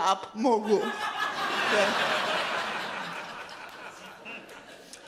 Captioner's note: audience laughs loudly